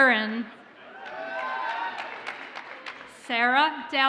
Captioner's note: audience cheers and applauds